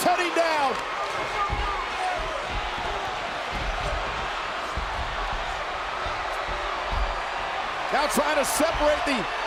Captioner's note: applause; applause